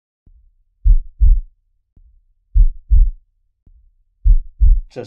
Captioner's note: the sound of heart beat